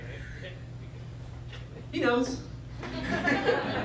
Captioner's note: laughter